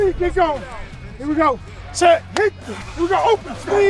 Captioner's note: coach claps